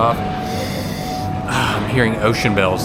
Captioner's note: sniffs